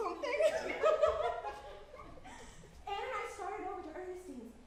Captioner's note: giggles